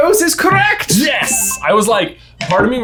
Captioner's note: tone dings